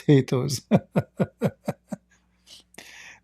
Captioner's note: Ketawa